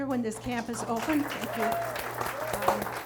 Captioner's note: audience applauds